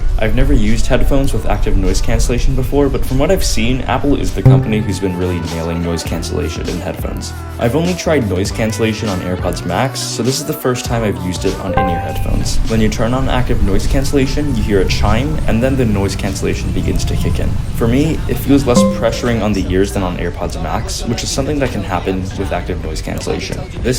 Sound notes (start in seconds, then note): 4.5 AirPods chime; 11.7 ambient noise fades in, music gets softer; 11.8 AirPods chime; 18.7 ambient noise gets quieter, music gets louder; 18.8 AirPods chime